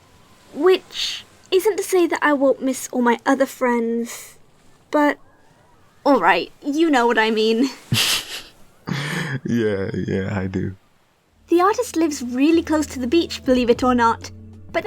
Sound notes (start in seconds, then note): 8.8 laughs